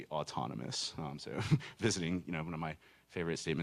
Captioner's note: chuckling